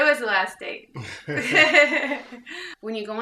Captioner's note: interviewer and laughing